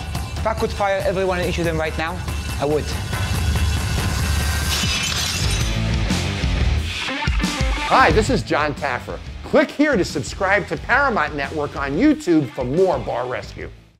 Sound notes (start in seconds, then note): 4.0 plate shattering; 5.5 rock music